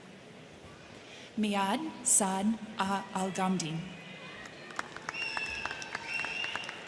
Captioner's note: crowd cheering